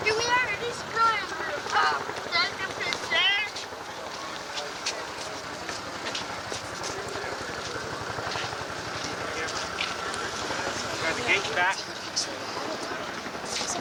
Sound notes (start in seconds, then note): 4.5 helicopter sound in background